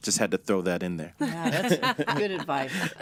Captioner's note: laughing